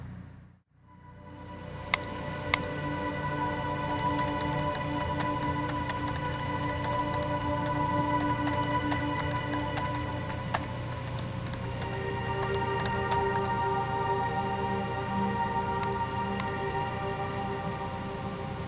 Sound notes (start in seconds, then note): 3.7 typing